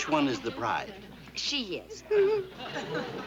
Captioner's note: whimpers